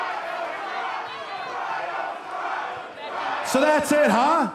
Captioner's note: fans chanting